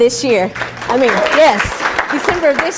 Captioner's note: applause